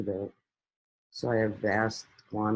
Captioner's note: none